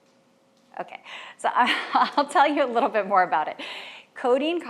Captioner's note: laughs